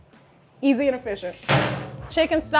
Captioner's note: metal clanging